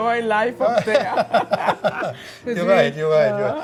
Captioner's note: laughs